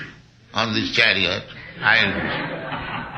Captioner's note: laughter